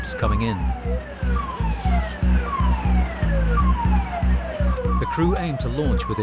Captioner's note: siren continues blaring; tense music